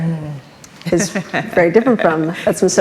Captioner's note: laughs